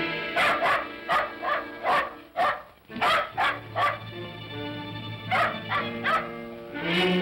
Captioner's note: ominous whimsical music; dog barks; ominous whimsical music